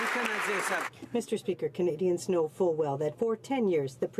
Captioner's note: some Applause